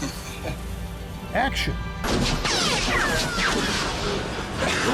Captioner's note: guns shooting